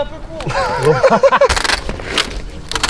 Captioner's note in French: rires